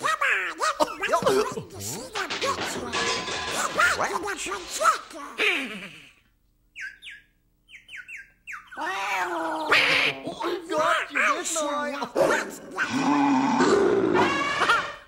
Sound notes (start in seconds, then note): 5.4 Donald soft chuckling; 7.6 background bird chirping; 8.9 background cat aggressive meowing; 9.7 Donald alarmed quacking; 12.1 background dog warning barking; 12.8 background bull bellowing; 14.9 background lion roaring